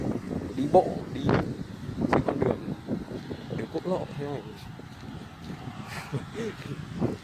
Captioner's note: laughing